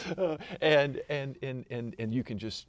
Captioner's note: laughter